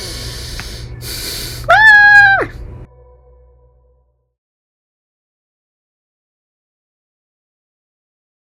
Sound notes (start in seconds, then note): 1.6 screams